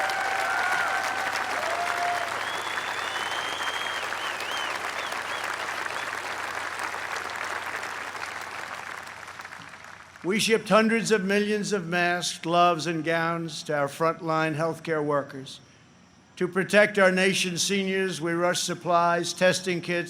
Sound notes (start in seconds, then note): 0.0 applause; 2.6 applause